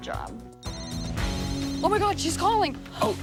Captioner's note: phone rings